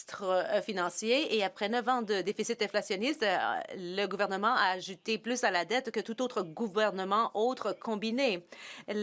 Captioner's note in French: voix de l'interprète